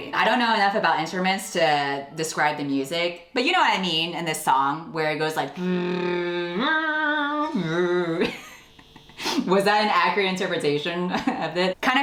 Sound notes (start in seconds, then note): 7.1 imitates the music; 7.2 laughs